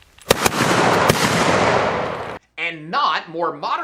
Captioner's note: gunshots